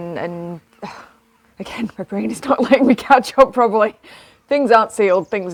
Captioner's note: laughs